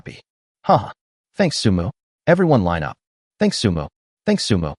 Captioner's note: haha